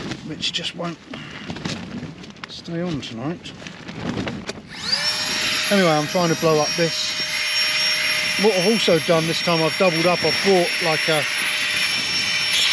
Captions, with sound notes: which just won't stay on tonight (electric mini fan whirs again) anyway I'm trying to blow up this what I've also done this time I've doubled up I've brought like a